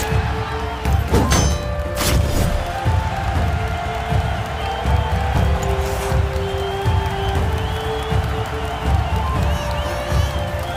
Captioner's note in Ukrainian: Оплески